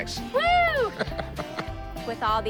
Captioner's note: laughs